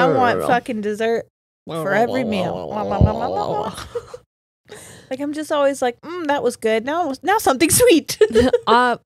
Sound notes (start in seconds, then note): 2.3 both make eating sounds; 8.8 laughs